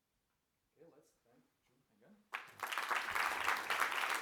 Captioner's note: applause